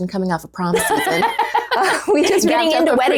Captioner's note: laughing